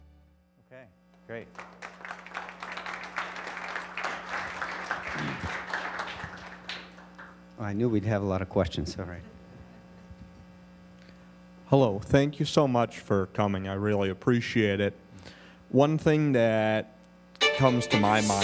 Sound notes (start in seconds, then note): 7.0 applause